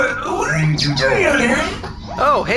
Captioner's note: blearily